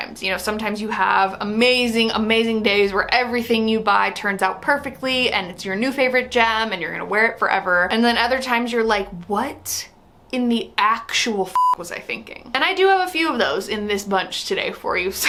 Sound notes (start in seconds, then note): 11.5 beep